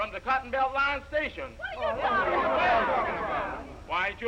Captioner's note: all chattering